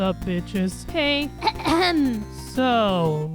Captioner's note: coughs